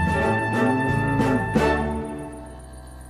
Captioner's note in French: Meuglement